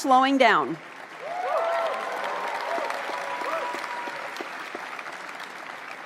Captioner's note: applause